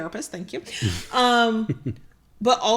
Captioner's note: laughs